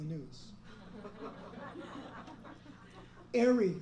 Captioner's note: laughter